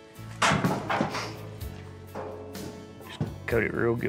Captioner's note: cow clangs against gate